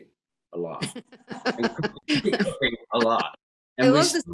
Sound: Ina laughs

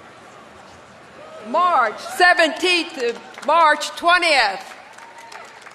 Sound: cheers and applause

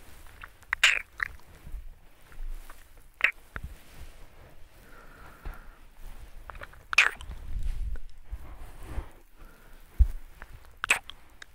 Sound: deep kisses sound

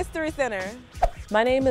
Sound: whoosh

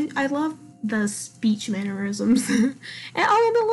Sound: laughs

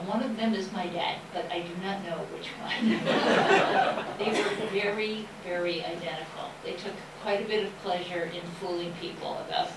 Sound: laughter

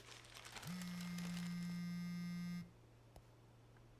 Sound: phone vibrating

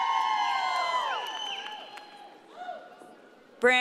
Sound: audience cheering

